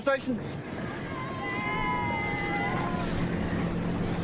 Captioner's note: cheers